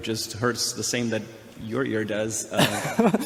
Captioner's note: laughs